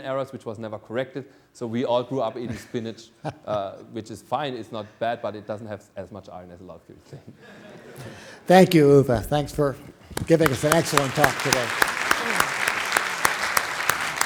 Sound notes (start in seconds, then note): 7.1 laughter; 12.0 clapping